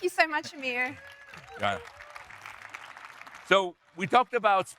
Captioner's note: audience applauding